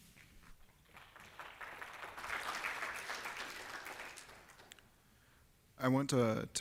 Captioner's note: applause